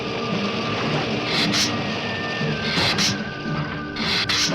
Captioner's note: lizard hissing